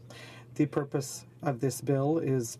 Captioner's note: speaking French